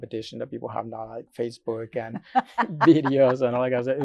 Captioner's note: laughs